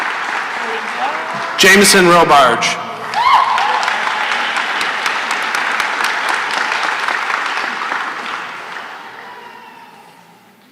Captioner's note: applause; cheering and applause; silence